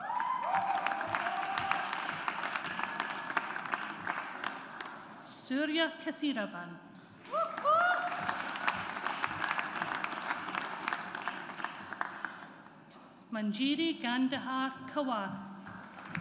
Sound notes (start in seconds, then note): 0.0 audience applauds; 7.3 audience applauds